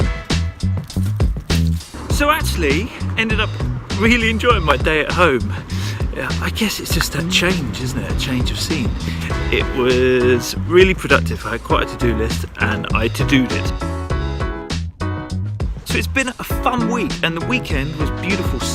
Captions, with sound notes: (footsteps) - So, actually, ended up really enjoying my day at home, I guess it's a change of scene, isn't it? A change of scene, it was really productive. I had quite a to-do list and I to-do'd it! So it's been a fun week and the weekend was beautiful